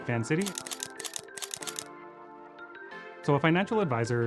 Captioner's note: camera clicking